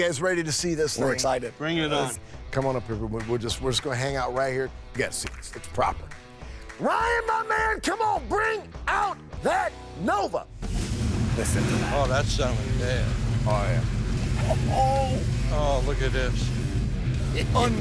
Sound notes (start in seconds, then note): 9.7 engine rumbling